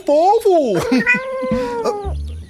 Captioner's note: meowing; Chico clears his throat